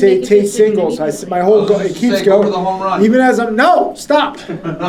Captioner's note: students debating